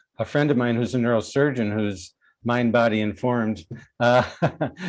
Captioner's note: laughs